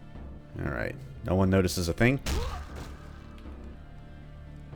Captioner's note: thwack